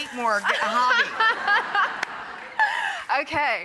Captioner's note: crowd laughs